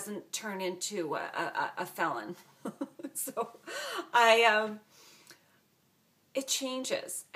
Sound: laugh

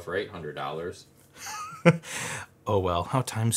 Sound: laughs

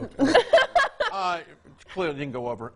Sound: laughing

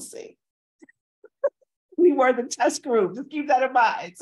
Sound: laughs

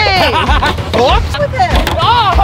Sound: laughs loudly

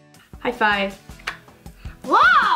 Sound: palms clap

